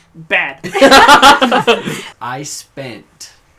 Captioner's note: laugh